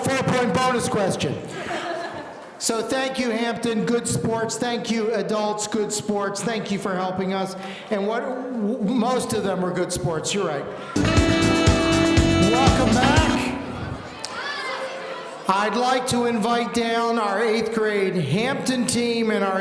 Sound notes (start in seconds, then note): 1.5 laughing; 10.9 upbeat music